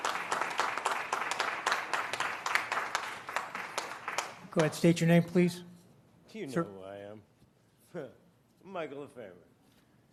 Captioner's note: applause